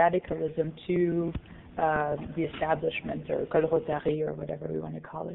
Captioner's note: foreign language